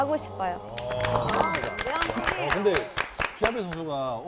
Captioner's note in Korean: 박수 세례